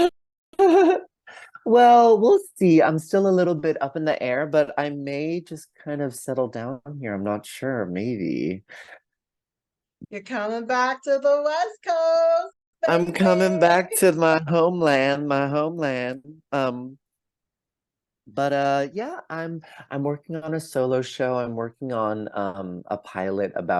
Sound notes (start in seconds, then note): 0.9 laughs; 7.9 singsong